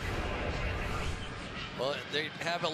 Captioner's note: swoosh